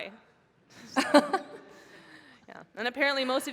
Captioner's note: laughter